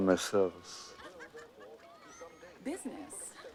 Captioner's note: laughing